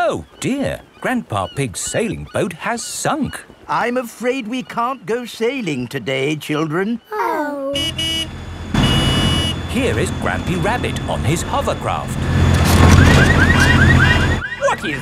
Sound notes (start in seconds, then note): 7.7 honking; 12.8 car alarms blaring